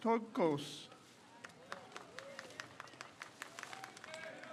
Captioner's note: crowd cheers